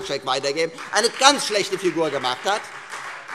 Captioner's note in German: Beifall Freie Demokraten